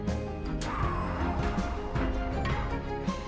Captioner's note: door whirs; metal clanks